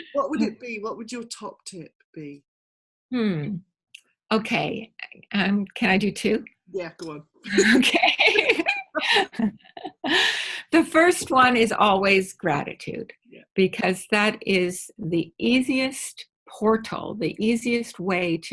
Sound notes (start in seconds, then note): 7.5 laughing